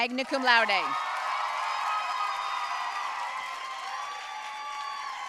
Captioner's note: audience cheering and applauding